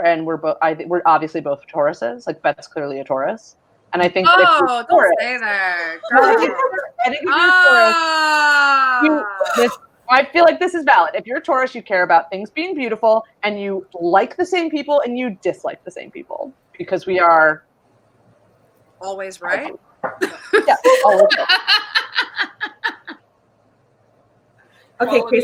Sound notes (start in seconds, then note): 8.4 laughing; 23.8 laughing